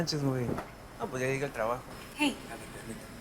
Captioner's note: speaking spanish